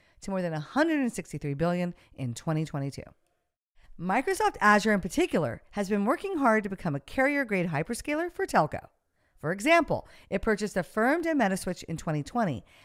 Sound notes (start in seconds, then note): none